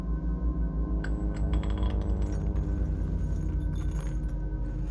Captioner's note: bullets clinking